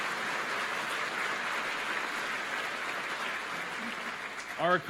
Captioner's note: applause